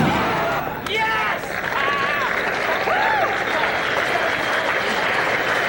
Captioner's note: crowd applauds